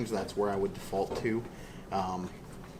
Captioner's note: none